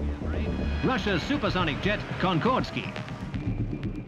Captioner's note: radio voice